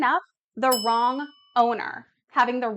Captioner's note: bell ringing